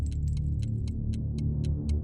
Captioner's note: none